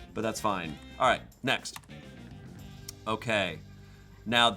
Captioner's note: key clacking